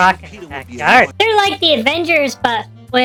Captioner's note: sarcastically